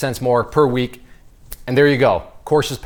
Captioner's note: snaps fingers